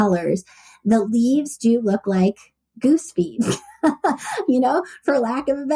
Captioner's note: laughs